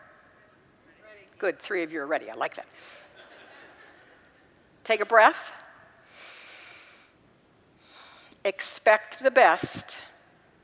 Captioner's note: congregants laugh